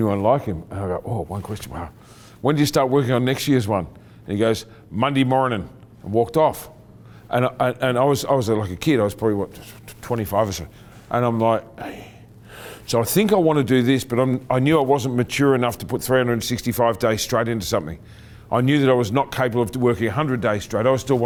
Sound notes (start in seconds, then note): 11.8 exhales